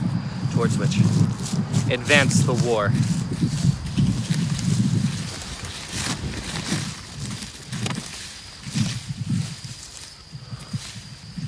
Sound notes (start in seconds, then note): 4.9 rustling of leaves, Sound of Crickets